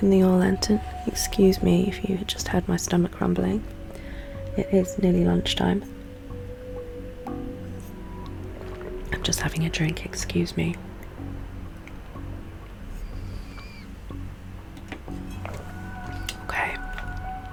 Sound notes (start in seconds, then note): 5.9 drinking noise